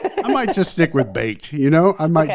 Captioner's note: laughs